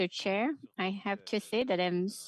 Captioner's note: speaking French